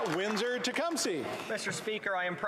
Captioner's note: applause